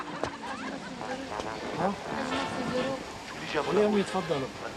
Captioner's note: they converse in arabic